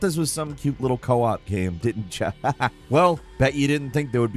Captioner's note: laughs